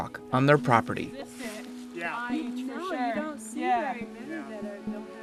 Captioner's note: overlapping chatter